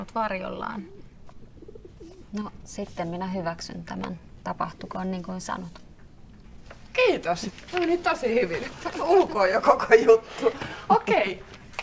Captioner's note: pigeons cooing